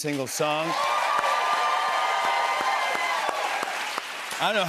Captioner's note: cheers and applause